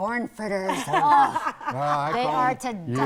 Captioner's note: laughing